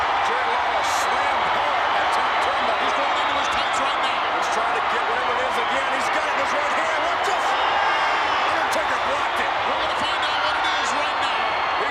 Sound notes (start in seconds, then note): 7.6 crowd cheering